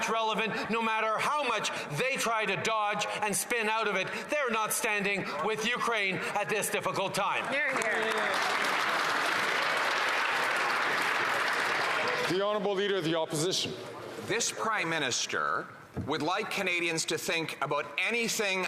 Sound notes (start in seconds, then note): 10.5 some Applause